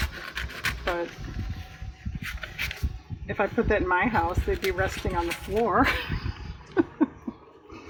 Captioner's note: laughs